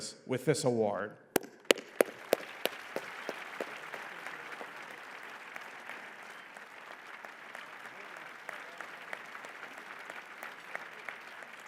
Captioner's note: applause